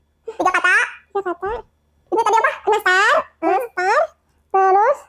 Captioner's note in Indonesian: tertawa